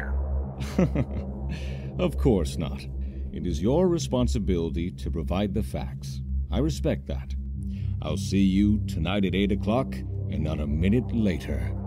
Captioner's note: chuckles; shadowing music